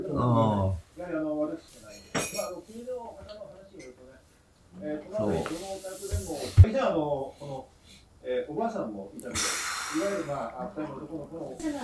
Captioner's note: TV sound is in the room